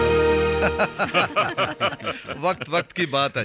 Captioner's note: laughing